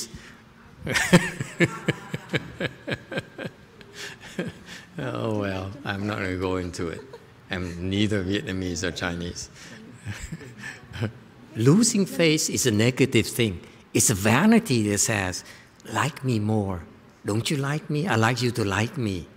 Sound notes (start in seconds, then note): 0.8 laughter; 9.8 laughing